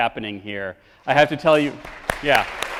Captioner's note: clapping